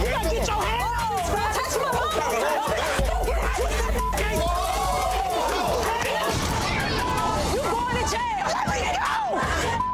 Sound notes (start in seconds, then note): 2.9 crowd fighting